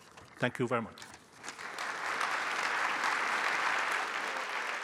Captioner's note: applause